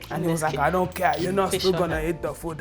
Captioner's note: imitates dad